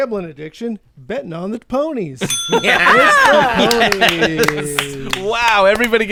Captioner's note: bell dings; clapping